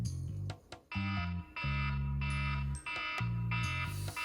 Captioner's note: the alarm is going absolutely wild! 📣